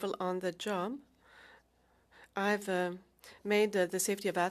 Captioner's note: speaking French